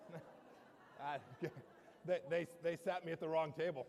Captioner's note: laughter